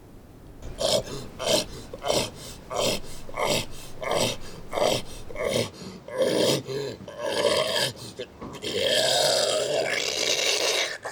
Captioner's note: George hacking up something